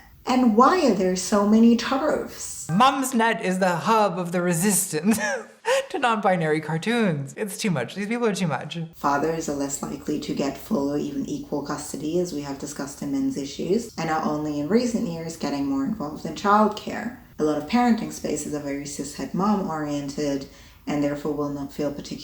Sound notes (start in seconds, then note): 5.0 laughs